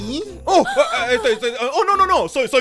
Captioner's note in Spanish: tartamudea